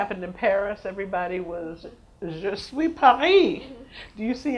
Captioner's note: speaks foreign language